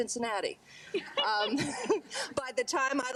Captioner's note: laughs with group